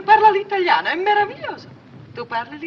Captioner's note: continues speaking in italian